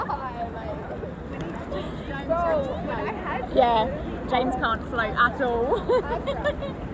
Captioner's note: laughter